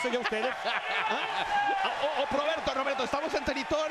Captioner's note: laugh